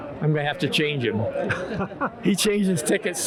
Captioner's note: laughs